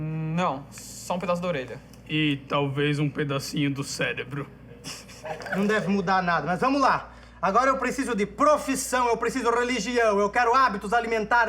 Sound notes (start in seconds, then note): 4.8 laughs